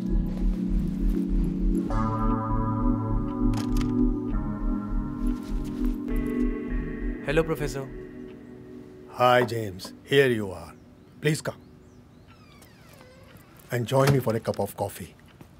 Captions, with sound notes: (Tense music) (Door opens) - Hello, professor! - Hi, James, here you are. Please come and join me for a cup of coffee.